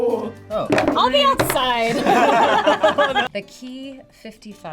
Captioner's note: all laugh